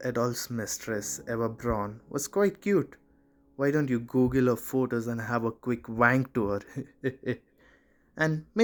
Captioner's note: eheheh